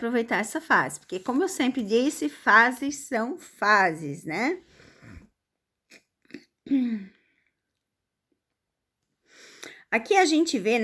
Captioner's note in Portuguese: limpando a garganta